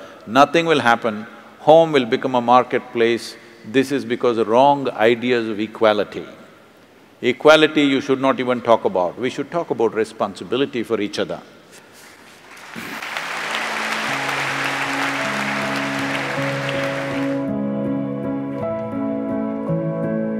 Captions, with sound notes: nothing will happen, home will become a marketplace. This is because of wrong ideas of equality. Equality you should not even talk about. We should talk about responsibility for each other (Applauds).